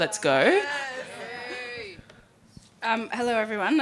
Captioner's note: audience cheering